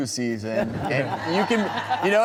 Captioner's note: crowd laughing